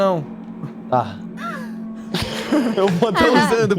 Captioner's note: laughs